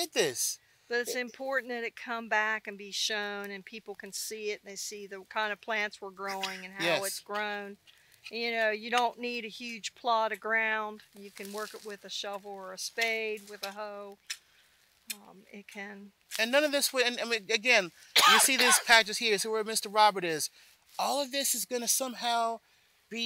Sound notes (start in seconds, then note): 15.0 hose scraping; 18.1 coughs